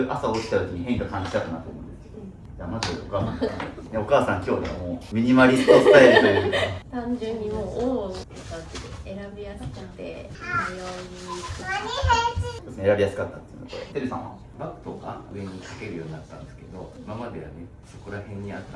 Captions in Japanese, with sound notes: じゃ、まずお母さんお母さん今日はもうミニマリストスタイルという [笑い] 単純にもう王で選びやって迷い選びやすかったのテルさんはバックとか上にけるようになったんですけど、今まではねこら辺にあったのでバッグを探すのですら使ってませんけど場所が固定されてるってのが分かったので楽になったなっていう印象は感じましたね。